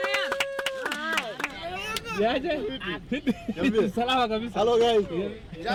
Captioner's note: cheering; speaking in foreign languages